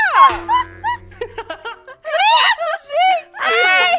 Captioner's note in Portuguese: Risadas